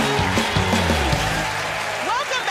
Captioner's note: cheers and applause